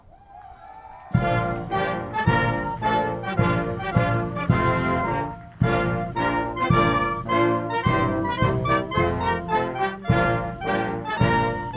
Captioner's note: applause